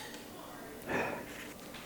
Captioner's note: sigh